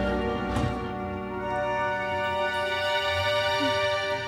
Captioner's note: car door bangs